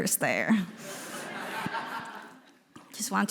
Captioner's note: audience laughing